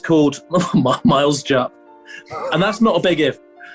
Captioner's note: laughing